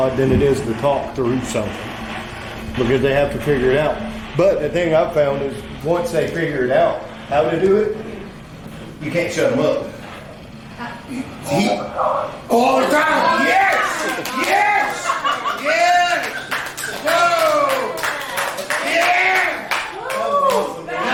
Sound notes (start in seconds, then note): 12.7 cheering and laughing; 15.5 clapping